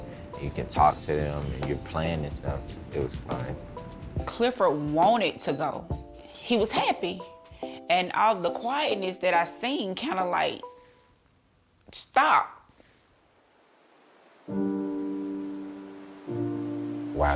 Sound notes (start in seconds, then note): 13.8 water flowing; 14.4 gentle music